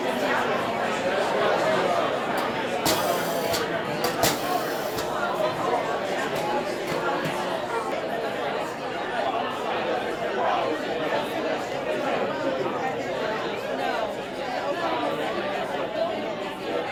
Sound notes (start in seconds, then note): 2.8 high-pressure spraying noise; 6.0 general chatter